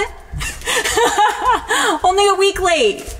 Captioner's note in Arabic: أمي تضحك